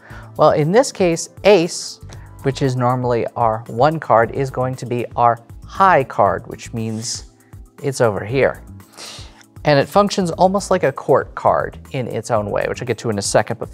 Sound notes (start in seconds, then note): none